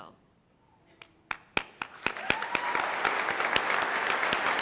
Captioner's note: applause